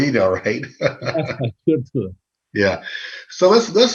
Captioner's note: laughing